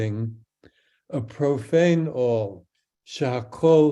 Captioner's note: speaks in Hebrew